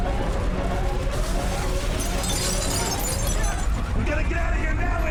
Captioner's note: glass shattering